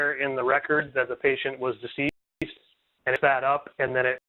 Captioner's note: phone glitches